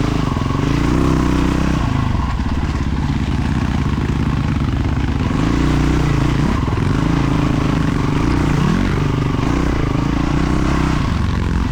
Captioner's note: engine revving